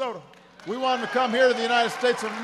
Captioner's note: applause